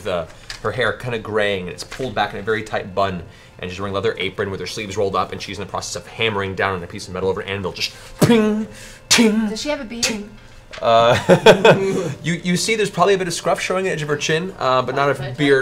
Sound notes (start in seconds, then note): 8.2 ping, ting, ting; 10.9 laughs